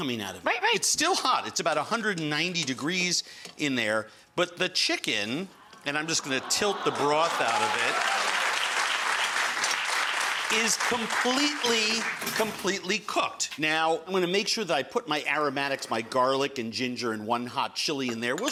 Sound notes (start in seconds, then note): 8.3 crowd clapping